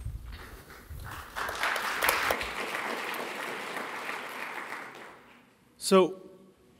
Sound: applause

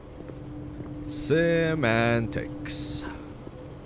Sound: machines beep

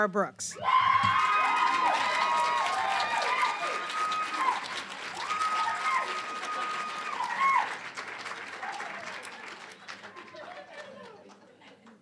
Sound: wild applause, cheering

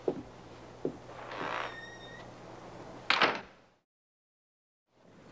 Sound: door creaks

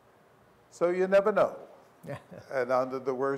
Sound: laughter

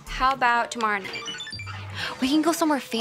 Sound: cellphone chimes

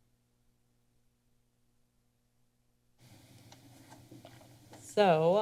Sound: silent

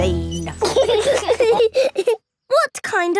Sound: laughing

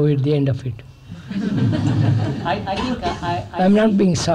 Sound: laughter

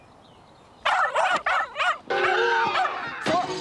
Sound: furious yipping

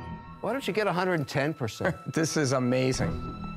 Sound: chuckles

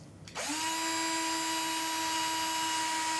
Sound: machine whirrs

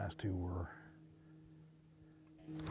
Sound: voiceover

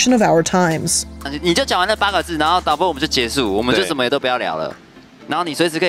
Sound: speaking in foreign language

